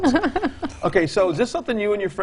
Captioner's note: female Host laughs